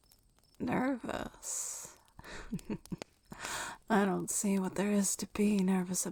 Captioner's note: chuckles